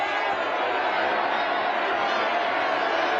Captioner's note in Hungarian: üdvrivalgás, éljenzés